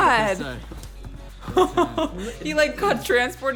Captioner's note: laughs